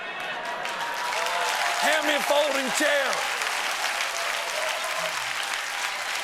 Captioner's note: cheers and applause